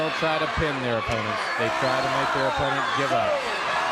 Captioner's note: crowd cheering